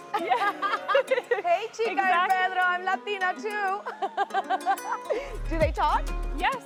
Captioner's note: laughs; laughs